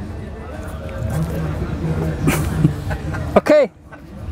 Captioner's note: laughing